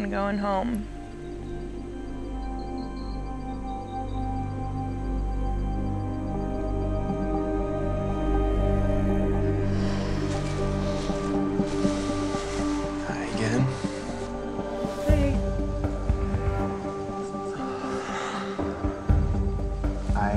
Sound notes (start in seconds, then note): 9.6 exhales deeply